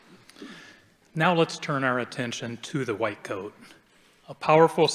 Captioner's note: none